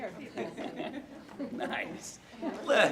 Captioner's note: audience laughing